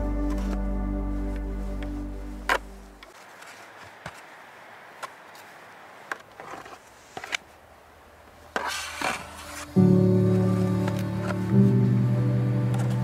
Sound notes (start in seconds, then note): 1.7 sound of snow shoveling; 9.7 happy music